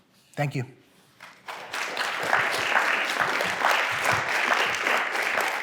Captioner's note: applause